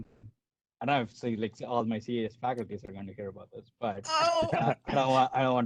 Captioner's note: laughter